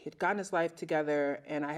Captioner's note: none